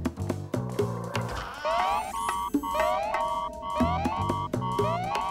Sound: alarm sounds

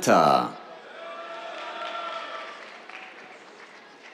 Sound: cheers, applause

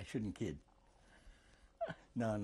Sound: laughs

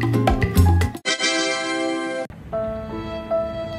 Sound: surprise sound effect; sad music

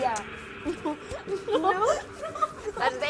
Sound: laughs

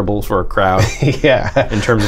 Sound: laughter

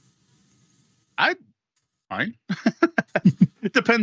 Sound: laughs

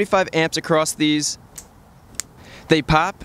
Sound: fuses pop

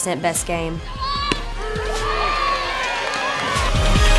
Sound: cheering

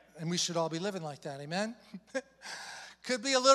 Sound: chuckles

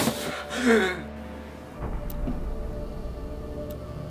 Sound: Derek gasps sharply

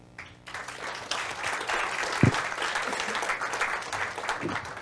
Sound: audience applauding

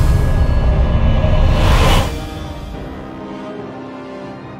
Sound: portal opening

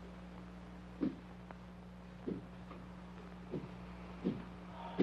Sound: footsteps banging

